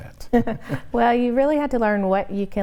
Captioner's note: both chuckle